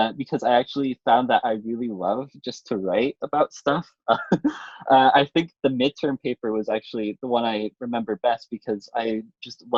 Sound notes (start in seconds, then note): 4.1 chuckles